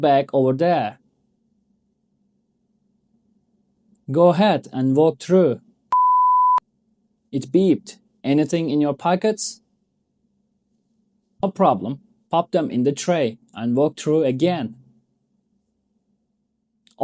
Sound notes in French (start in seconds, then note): 6.0 Le portique a émis un bip